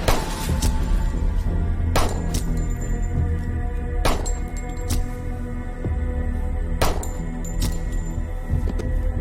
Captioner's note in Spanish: Disparos